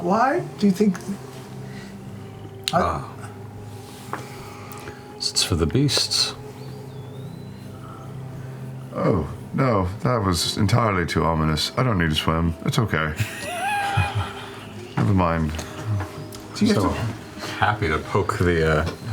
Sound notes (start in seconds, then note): 13.2 laughter